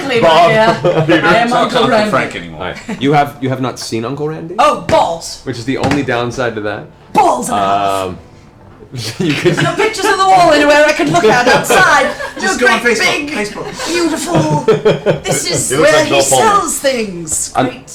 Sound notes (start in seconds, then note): 11.1 laughter